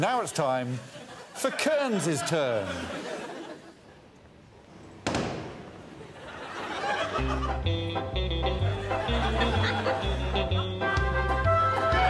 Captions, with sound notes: Now it's time for Kearns' turn. [crowd laughing] [playful music playing]